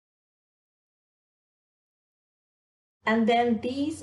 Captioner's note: silence